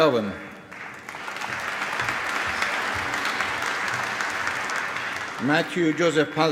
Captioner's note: applause